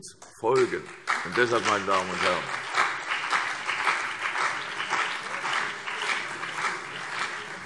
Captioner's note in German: Beifall CDU und BÜNDNIS 90/DIE GRÜNEN